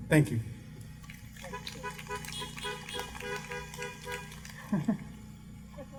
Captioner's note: car horns honking